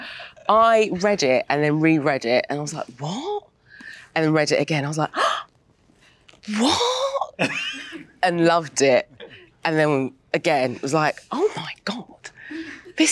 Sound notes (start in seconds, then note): 6.0 gasps